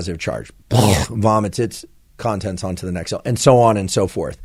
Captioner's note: imitates vomiting